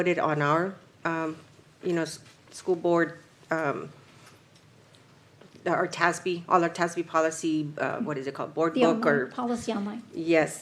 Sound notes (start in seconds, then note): none